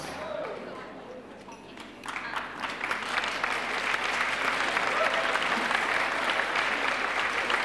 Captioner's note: clapping